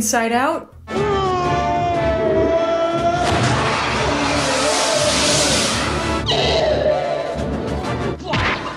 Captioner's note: Zod and the gang scream as they fall to their deaths